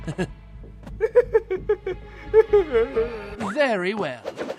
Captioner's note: frightened laughter